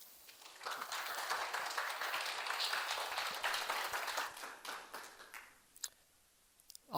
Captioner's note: applause